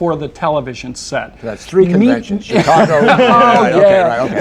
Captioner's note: laughter